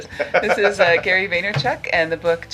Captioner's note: laughing